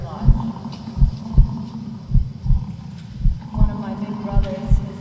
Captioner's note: buffalo bellowing; heart beating